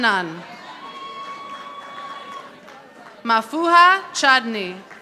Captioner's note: audience applauding